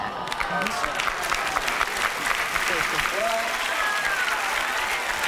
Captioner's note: audience cheers and applauds